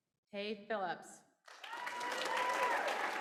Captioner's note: applause